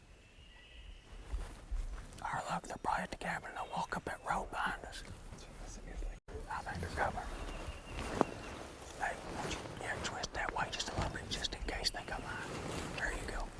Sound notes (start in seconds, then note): 2.6 whispering